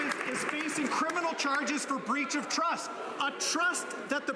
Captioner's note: some Applause